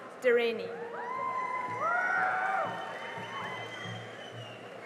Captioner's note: cheering and applause